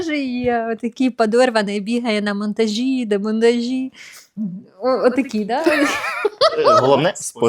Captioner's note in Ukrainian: сміх